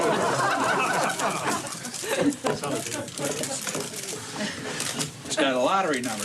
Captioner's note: spectators laughing